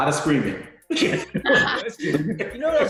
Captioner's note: laughing